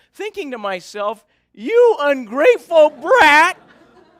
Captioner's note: laughter